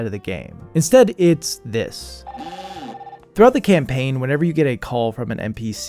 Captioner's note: Wiimote ringing